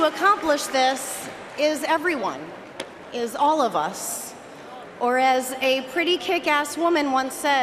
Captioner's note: cheering and applause